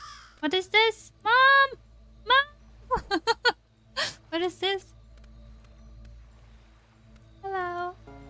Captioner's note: laughs